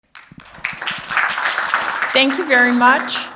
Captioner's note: audience claps